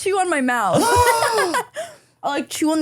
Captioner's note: gasps